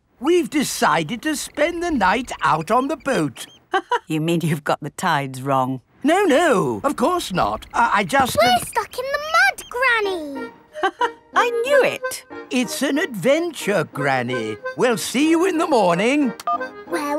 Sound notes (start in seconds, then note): 4.0 laughs; 10.7 laughs